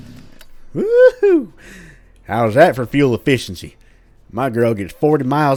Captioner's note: redneck voice